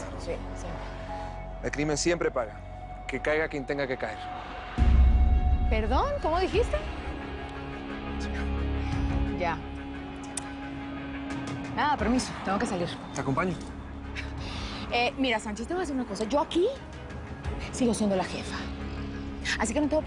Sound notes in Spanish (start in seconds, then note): 7.7 Habla entre dientes